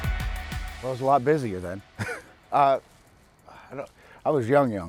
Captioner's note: laughs